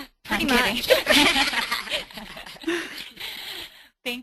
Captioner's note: voiceover; laughter; voiceover